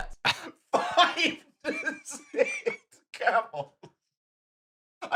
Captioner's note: laughing